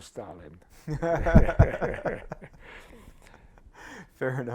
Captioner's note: laughter